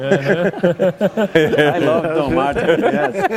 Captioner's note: laughter